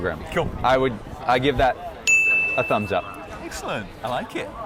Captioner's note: bell rings